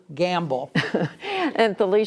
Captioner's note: laughter